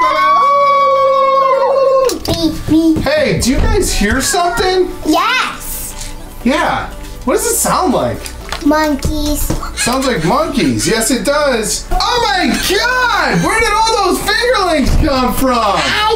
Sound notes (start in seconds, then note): 0.0 girls scream; 0.9 dad yells